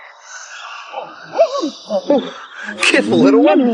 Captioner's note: wolf barking